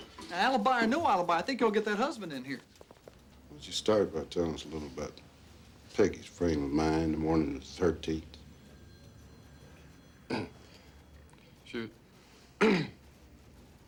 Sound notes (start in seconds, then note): 10.3 stan clears throat; 12.6 clears throat